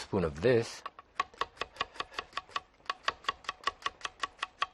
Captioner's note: chopping board tapping